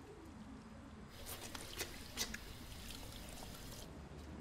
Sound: water running

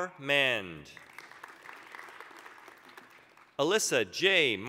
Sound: applause

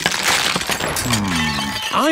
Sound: cracking

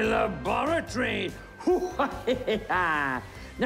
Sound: hacker evil laughs

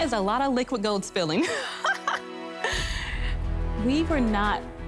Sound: laughs

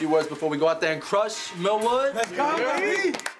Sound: football team hoots

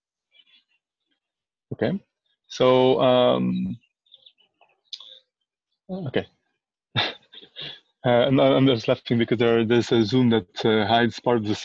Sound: laughs

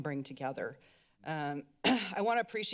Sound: clears throat

